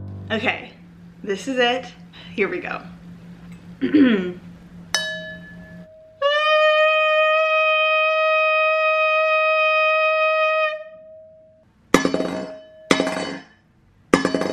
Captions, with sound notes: Okay, this is it, here we go. (clearing throat) (ding) (singing) (thumping)